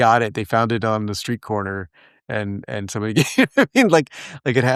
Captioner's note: laugh